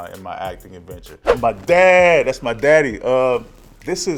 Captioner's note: air whooshing